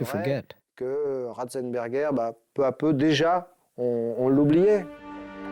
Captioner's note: French spoken audio